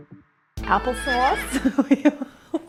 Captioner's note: horse neighing; laughing